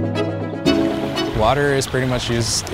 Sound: water rushing

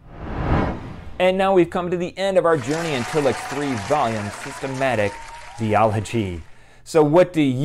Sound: applause

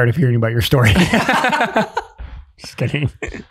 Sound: group laughing

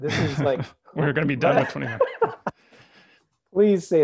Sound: laughs

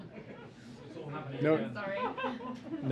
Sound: laughter

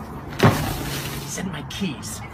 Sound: tree Falls

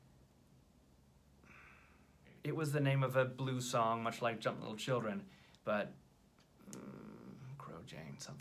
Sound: sighs

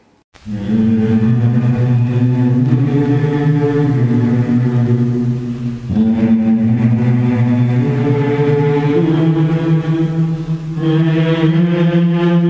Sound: Vonts humming their anthem

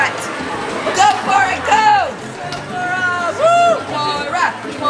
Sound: cheering

